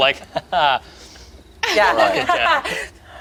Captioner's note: laughs